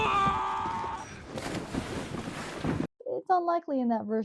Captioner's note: yelling